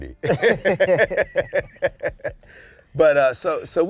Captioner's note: laughter